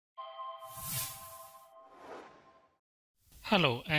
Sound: chime

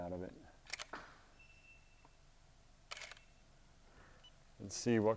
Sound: camera shutter clicks

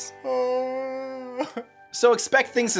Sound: sobbing

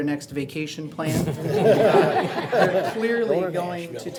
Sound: audience laughs

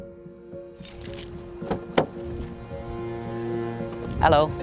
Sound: car handle clicks

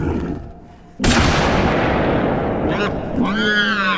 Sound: gun banging

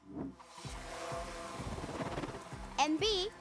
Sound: drone buzzing

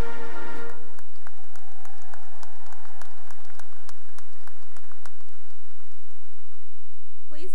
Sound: cheering and applause

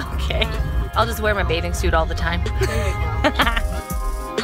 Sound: laughs; smooth music

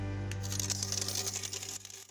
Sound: coins falling

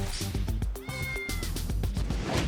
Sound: meow

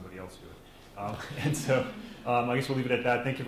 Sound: laughing

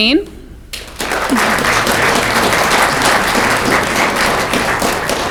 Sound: audience clapping

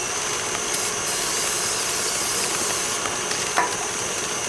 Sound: sprays aerosol

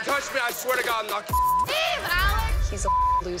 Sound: beep

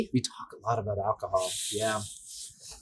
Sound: sucks in air

